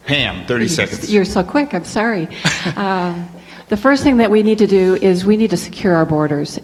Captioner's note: laughs